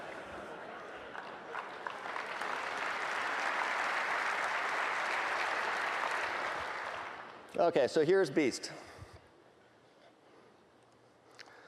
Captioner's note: applause